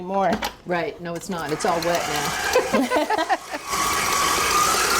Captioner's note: laughing